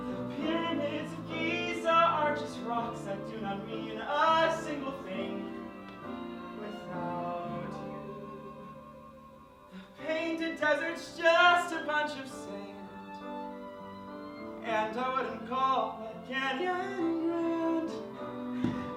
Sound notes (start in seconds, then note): none